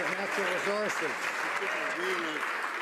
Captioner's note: some Applause